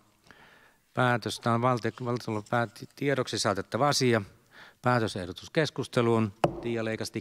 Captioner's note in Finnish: Nuijan kopautus